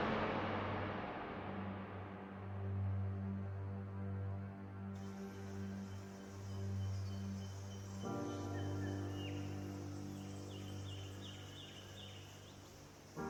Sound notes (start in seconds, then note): 5.0 bird calls